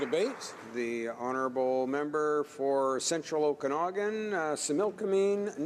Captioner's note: applause